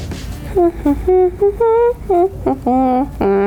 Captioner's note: hums